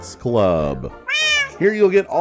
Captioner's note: minecraft cat meow